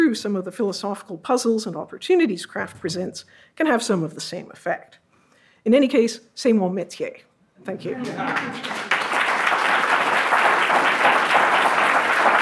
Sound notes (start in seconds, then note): 6.3 speaks foreign language; 7.9 audience applauds; 8.3 audience laughs